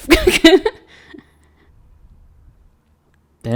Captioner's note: laughs